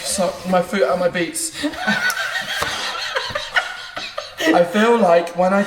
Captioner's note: laughs